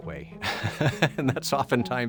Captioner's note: laughs